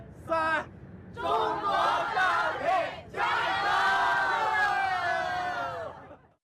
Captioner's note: passengers cheering